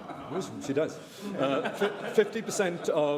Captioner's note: laughter